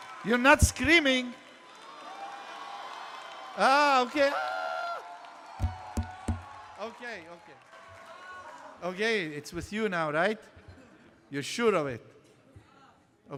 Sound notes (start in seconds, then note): 1.8 screaming continues